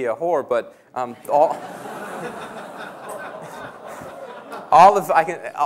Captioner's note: laughter